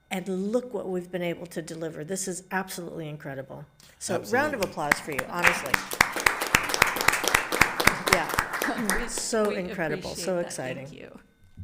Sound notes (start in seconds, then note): 6.5 everyone applauding